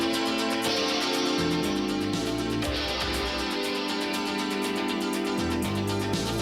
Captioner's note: crowd cheering